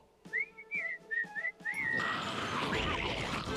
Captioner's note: whistling